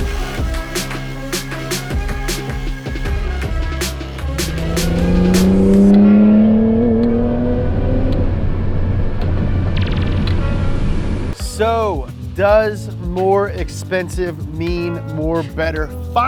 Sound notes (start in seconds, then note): 0.0 upbeat music; 5.0 engine hums